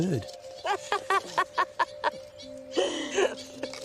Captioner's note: laughing